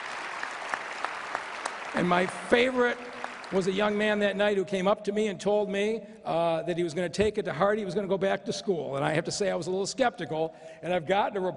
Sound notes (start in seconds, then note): 3.7 cheers and applause; 4.4 applause